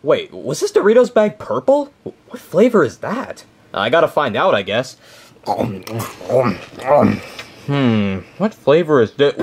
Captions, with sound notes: Wait, was his Doritos bag purple? What flavor is that? I gotta find out, I guess. (chewing) Hmm. What flavor is this?